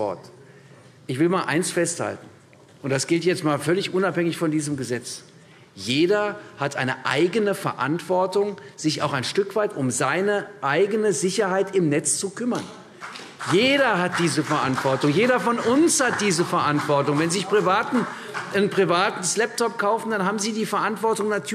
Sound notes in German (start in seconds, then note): 12.9 Beifall CDU